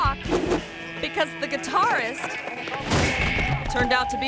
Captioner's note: person thuds; screen whooshes